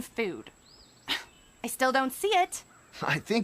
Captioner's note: scoffs